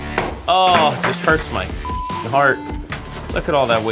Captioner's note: upbeat music; beep